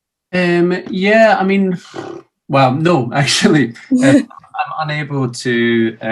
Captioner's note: sighs